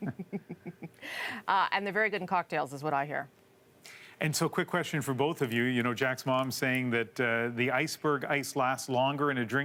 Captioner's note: laughter